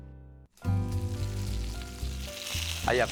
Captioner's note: pan sizzling